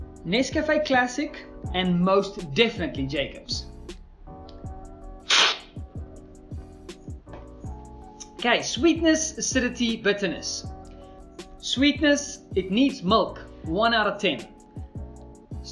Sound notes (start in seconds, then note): 5.3 slurping